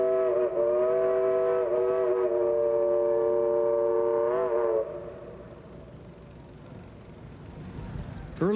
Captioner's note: train whistles